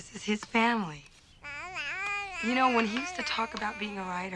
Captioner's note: Janey whines